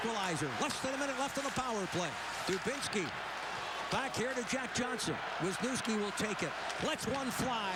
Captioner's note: cheers and applause